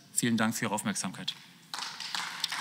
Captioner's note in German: Beifall